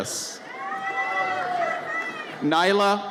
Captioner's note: audience cheers